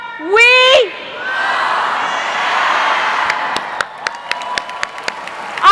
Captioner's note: crowd